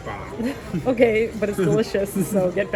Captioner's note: chuckles